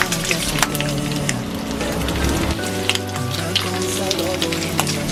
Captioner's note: pop music; bacon sizzling